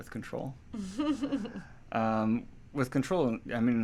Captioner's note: laughs